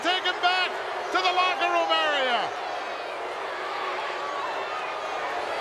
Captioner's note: crowd booing